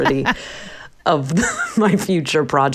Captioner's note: laughter